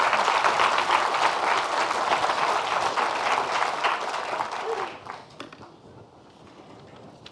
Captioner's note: audience applauding